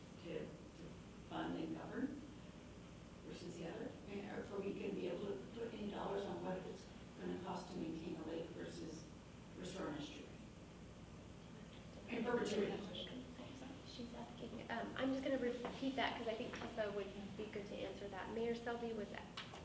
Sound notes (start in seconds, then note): 13.1 whispering